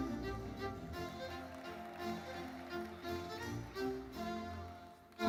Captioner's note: crowd cheering